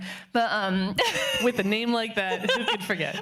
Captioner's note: laughing